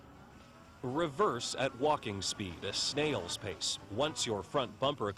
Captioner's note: voiceover